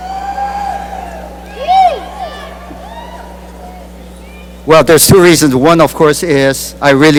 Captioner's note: cheering and applause